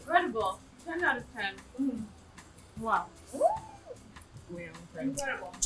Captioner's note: squealing